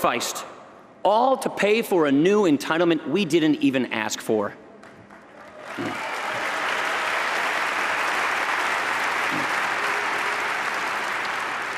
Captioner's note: applause